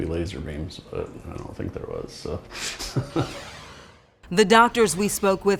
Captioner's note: laughs